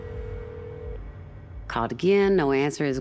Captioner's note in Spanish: línea sonando